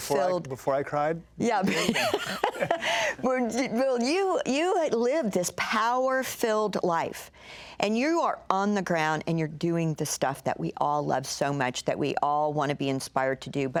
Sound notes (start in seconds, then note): 1.7 laughs